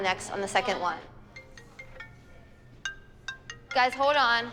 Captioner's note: cell phone ring tone